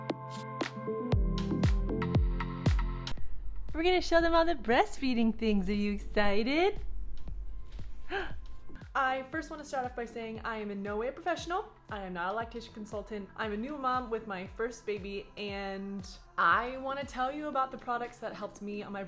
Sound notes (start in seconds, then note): 0.0 electronic music; 8.0 gasping